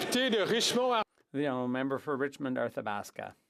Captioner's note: applause